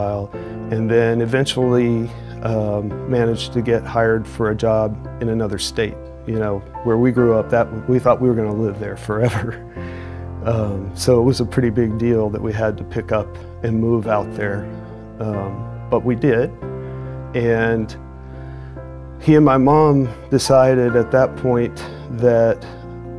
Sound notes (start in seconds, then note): 9.2 chuckles